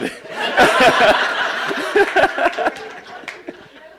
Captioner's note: laughing